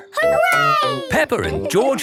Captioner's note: laughing